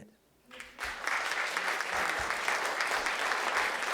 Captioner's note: applause